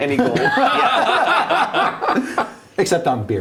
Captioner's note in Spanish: risas